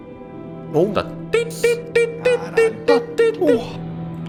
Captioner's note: beeping sound